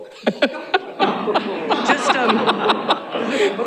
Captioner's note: laughter